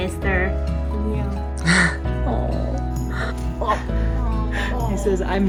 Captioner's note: chuckling